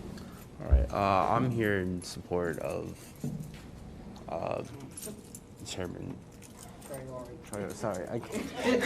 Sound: laughter

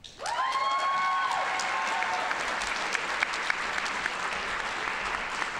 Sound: audience cheering and applauding

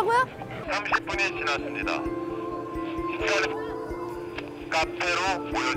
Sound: gets radioed

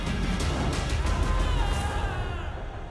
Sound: Jesse screams

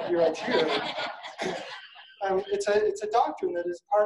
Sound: audience laughing

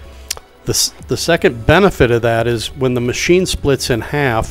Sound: smacking lips

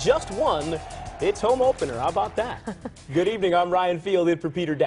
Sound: cheers

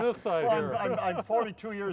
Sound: men laughing

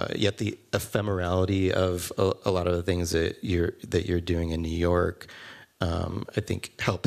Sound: none

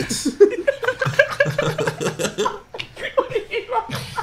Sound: students laughs

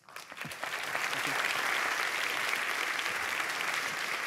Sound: applause

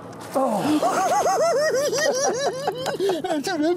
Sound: laughing

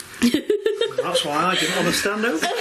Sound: laughing

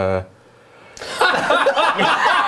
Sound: laughing

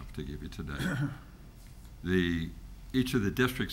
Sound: throat cleared

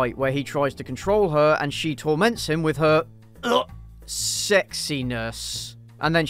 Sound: vomit

